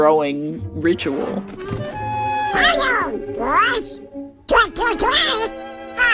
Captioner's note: soundbite of montage; As Donald Duck